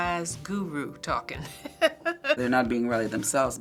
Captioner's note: laughs